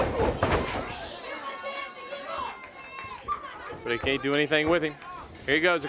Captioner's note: crowd chatter